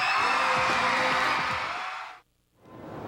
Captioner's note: audience screams and cheers